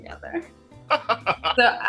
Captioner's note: laughter